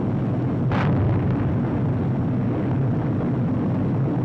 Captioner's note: bombs booming